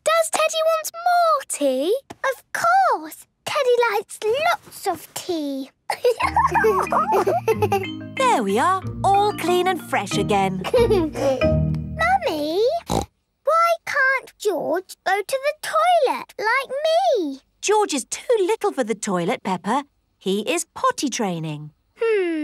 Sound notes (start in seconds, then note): 5.9 giggles; 10.6 giggles; 12.8 snorts